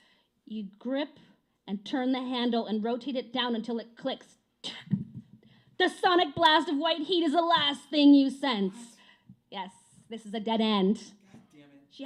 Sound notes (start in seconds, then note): 4.3 whispering